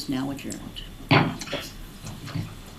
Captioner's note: gavel banging